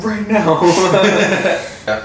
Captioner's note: laughs